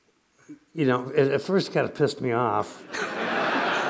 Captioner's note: laughter